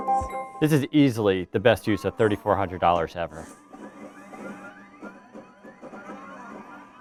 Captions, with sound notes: This is easily the best use of $3,400 ever. (video game popping)